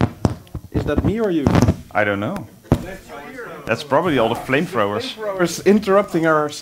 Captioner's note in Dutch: ruis